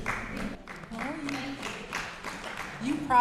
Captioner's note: applause